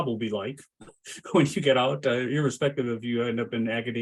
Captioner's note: laughs